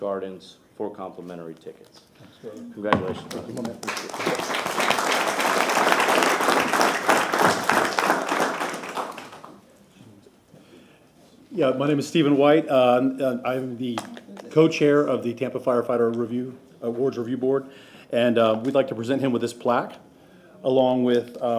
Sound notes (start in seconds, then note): 7.7 applause